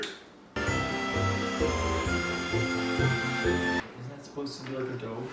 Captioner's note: mixer whirring